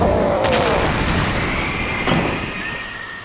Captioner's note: growls